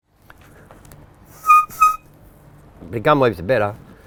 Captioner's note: whistles